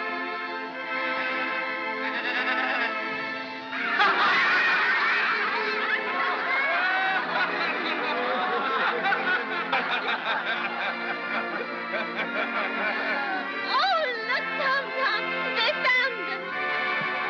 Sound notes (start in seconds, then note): 3.8 laughter